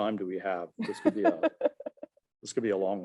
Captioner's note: laughing